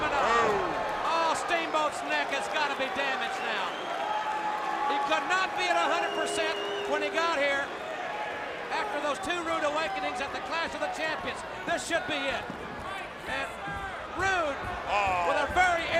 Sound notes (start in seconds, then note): 3.8 crowd cheering